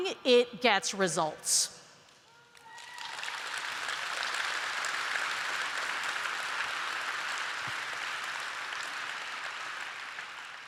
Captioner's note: applause